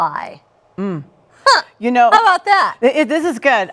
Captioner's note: chuckles